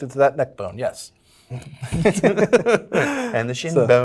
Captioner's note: laughs